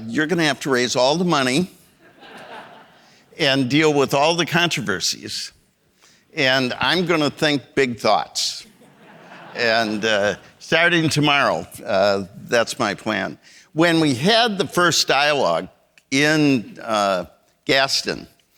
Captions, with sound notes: You're gonna have to raise all the money, (audience laughing) and deal with all the controversies, and I'm gonna think big thoughts." (audience laughing) And starting tomorrow, that's my plan. When we had the first dialogue in Gaston,